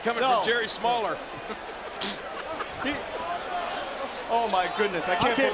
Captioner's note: laugh